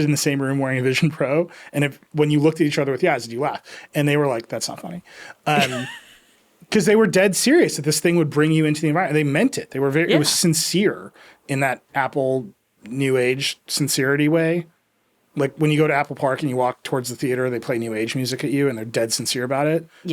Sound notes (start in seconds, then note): 5.4 laughing